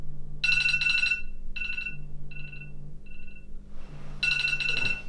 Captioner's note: alarm ringing